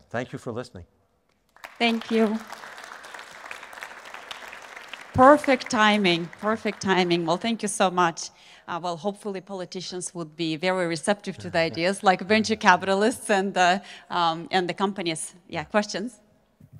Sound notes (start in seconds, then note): 1.4 audience clapping